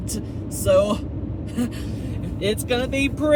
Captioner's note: chuckles